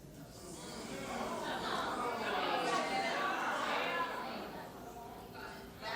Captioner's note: audience murmuring in agreement